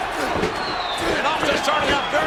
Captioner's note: audience cheers